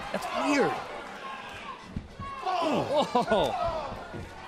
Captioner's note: crowd chatter